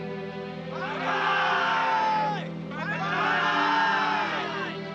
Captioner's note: somber music; cheering